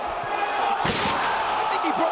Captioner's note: table crashes